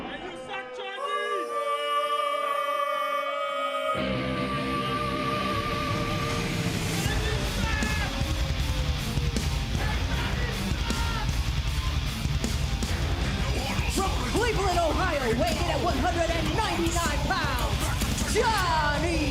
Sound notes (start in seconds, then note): 0.2 crowd chatter; 3.6 crowd cheering